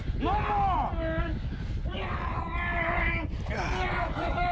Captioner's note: groaning